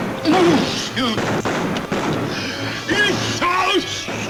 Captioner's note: Barney groans